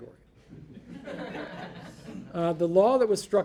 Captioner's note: audience laughing